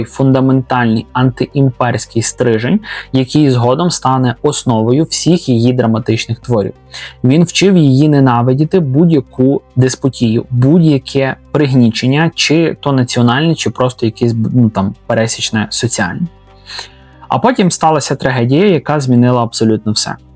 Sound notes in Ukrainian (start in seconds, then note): 16.6 сопіння